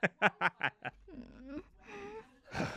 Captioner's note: etta whimpers; sighs